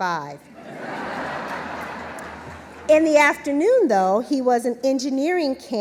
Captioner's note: laughter